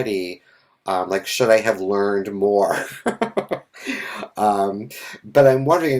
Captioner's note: laughs